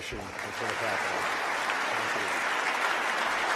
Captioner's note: applause